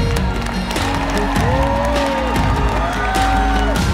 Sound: applause

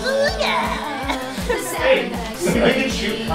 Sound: laughs

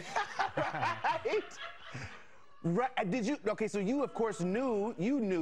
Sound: laughs

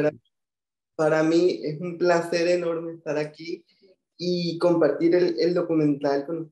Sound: speaking in foreign language

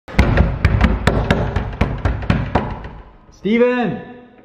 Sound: banging on door

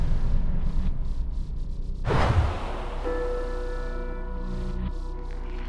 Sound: electronic buzzing and zapping

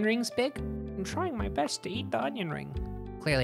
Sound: little guy voice

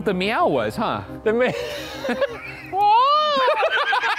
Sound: laughing

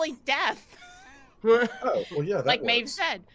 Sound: players laughing

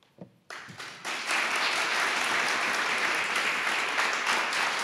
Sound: audience applauding

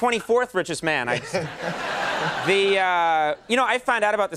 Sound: crowd laughs

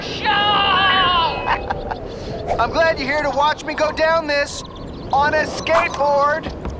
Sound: chuckles

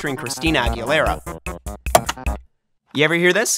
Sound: click

